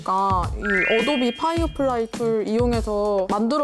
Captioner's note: sound effect of having a helper